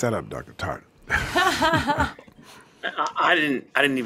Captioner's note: laughs